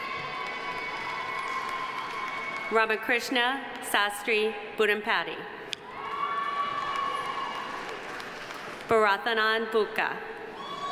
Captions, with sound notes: (audience applauding) (audience cheering) Ramakrishna Sastry Budampati. (audience applauding) (audience cheering) Bharathanand Bukka.